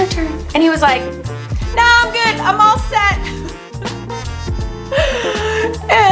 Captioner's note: laughs